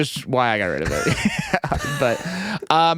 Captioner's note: laughing